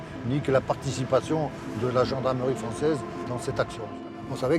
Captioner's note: speaking in French